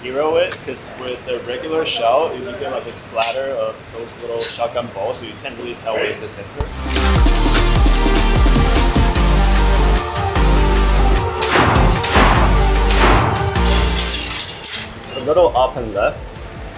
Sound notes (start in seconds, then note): 6.6 upbeat music; 11.4 gun firing